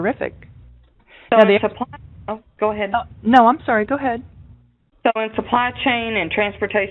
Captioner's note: two people talking